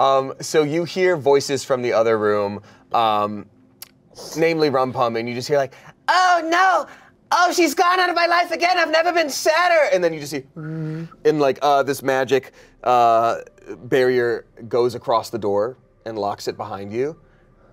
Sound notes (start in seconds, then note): 11.2 whirs